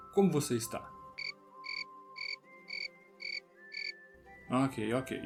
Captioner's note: cri cri